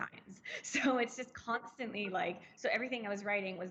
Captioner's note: chuckles